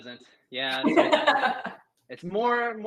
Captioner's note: laughs